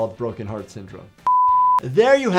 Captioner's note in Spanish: suena un pitido